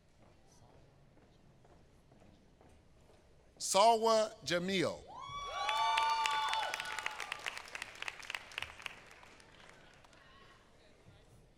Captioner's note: applause